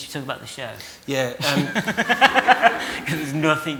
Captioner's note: laughs